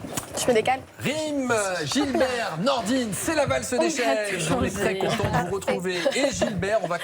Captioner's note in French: rires